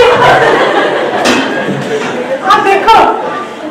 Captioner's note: everyone laughs